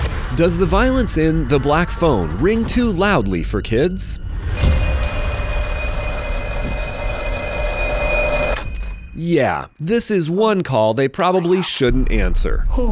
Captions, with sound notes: Does the violence in The Black Phone ring too loudly for kids? [Phone ringing] Yeah, this is one call they probably shouldn't answer.